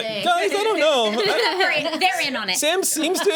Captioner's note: overlapping chatter